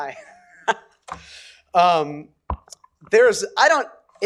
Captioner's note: chuckles